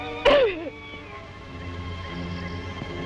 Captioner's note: sobs